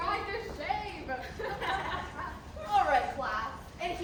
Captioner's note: laughter